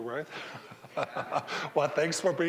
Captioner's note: all laughing